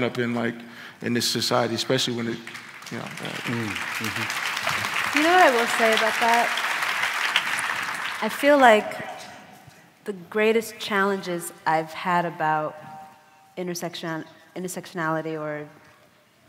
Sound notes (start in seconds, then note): 9.7 applause